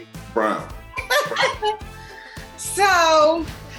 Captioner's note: laughs